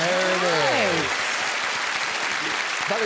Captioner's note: applause